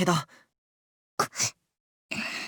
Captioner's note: gasp